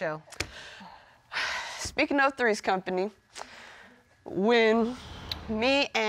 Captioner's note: sighing